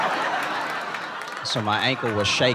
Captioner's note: laughter